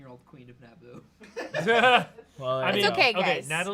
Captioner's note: off-camera laughing